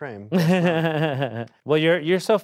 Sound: laughs

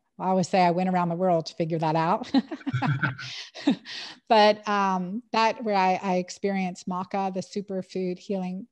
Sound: laughs

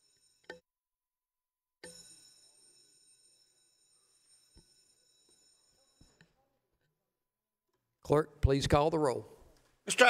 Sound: bell

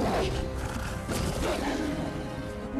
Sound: grunts

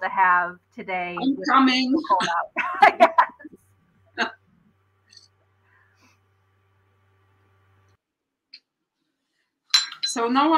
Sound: laughter

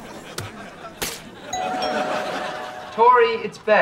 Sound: doorbell ringing

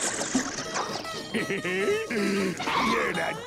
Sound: laughing

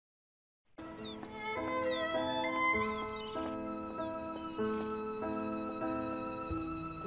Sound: soft string music; footsteps clomping

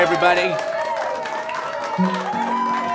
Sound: crowd applause

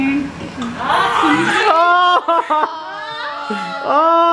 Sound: cheering

